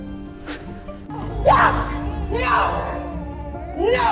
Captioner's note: Aunt Lydia cries; shouting